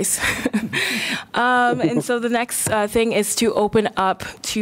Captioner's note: laughter